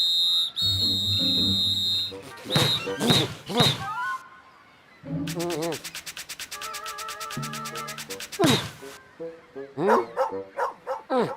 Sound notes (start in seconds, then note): 9.8 barking